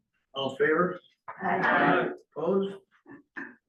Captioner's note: in Unison